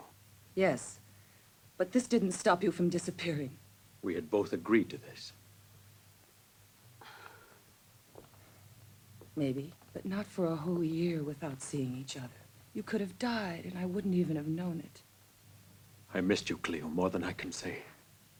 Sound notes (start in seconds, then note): 7.0 Cleo sighs